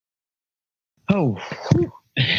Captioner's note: laughs; whews